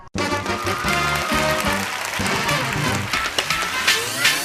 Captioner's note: applause